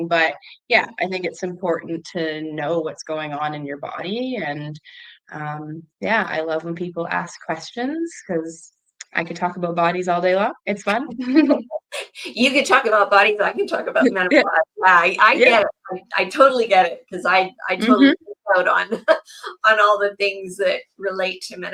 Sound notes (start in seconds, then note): 11.0 laughs; 13.9 laughs; 17.8 laughs